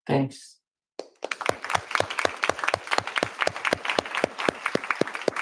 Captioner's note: applause